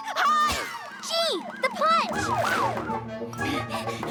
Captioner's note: gasping; siren wailing; breathing heavily